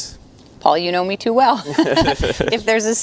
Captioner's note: laughs